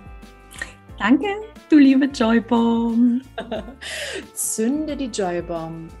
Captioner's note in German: lachen